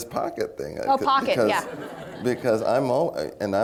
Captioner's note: laughter